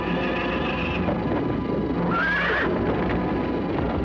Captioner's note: whinnying